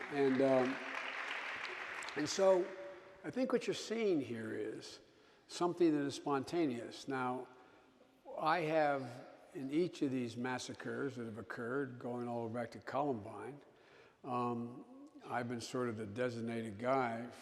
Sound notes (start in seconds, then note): 0.0 audience applauding